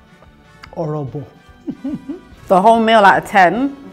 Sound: laughs

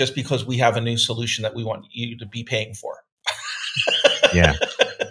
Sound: laughing

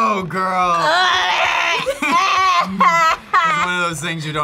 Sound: laughs

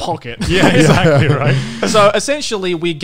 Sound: laughing

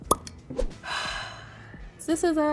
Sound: cork pops; Madelyn sighs deeply

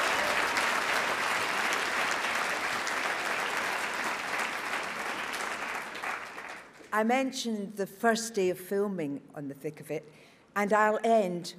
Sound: applause

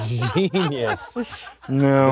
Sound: many laughs

